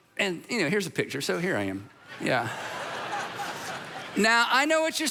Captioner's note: audience laughing